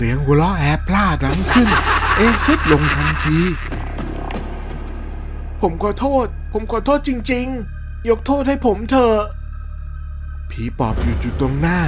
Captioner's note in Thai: เสียงหัวเราะ